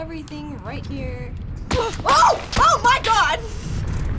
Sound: bullets striking

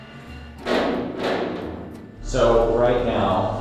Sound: banging

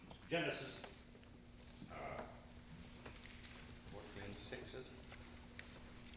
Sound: clears throat

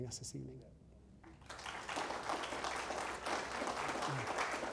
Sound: audience applause

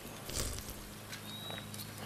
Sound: smacking

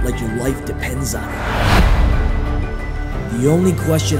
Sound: whooshing

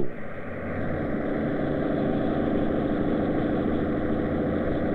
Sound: truck engine

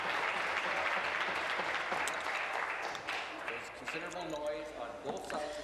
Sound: some applause

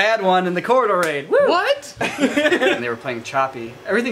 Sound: laughter

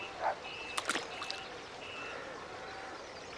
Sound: dog barks; splash

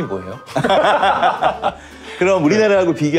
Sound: laughter

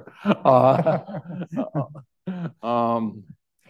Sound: all laughing

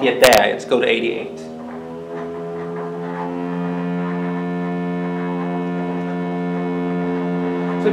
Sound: steady hum

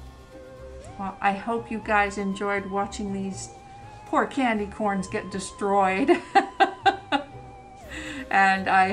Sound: laughs

